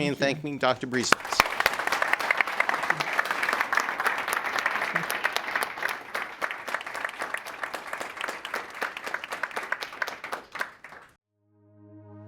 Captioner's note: applause